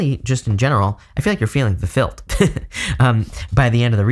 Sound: chuckling

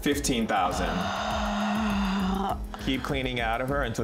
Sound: sighing

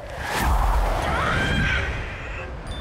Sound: screaming

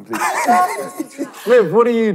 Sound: laughing

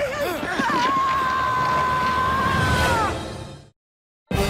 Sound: screaming

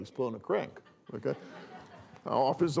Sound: laughter

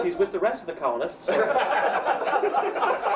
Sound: laughs

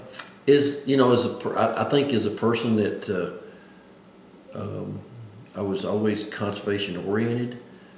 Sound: laughs

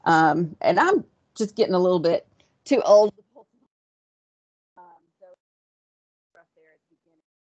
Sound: audio cuts out

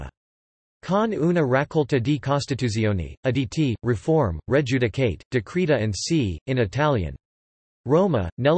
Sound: in Italian

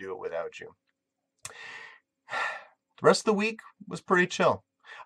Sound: long sigh

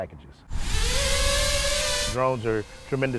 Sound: whirring noises

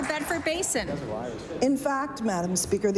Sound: applause

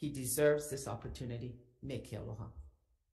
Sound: speaks Ōlelo Hawai'i

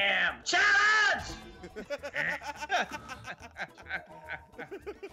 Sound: laugh

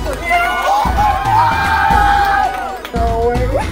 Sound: everyone cheers

